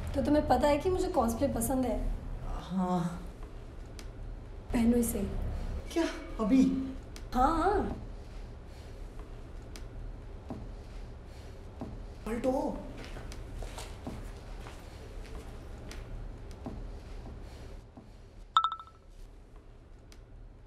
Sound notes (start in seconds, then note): 18.6 phone chimes